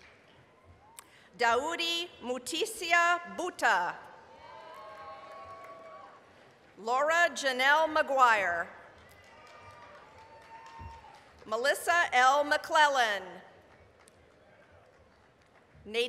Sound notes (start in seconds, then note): 0.0 applause, whistling; 4.3 applause, cheering; 8.8 applause, cheering; 14.7 applause